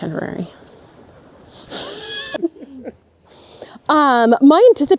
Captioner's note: group laughing